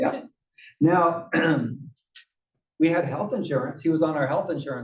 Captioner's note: cough